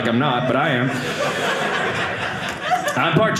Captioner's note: audience laughing